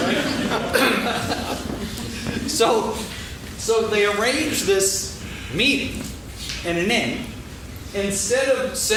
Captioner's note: laughing